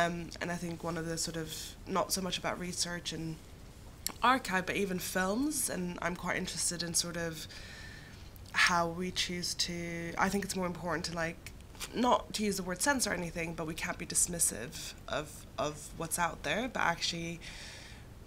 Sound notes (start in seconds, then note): none